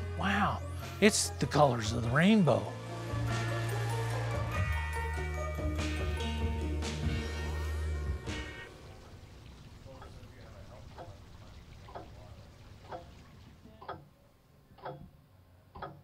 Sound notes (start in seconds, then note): 10.6 clock ticking